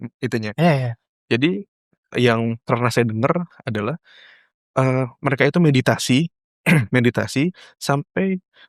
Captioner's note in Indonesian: berdehem